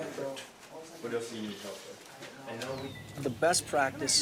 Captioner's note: people chattering